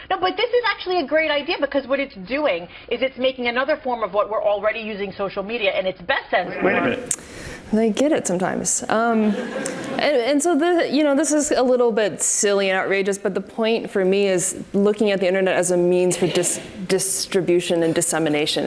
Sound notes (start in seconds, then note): 9.2 audience laughs